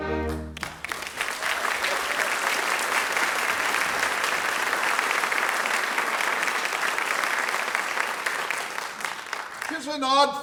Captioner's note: applause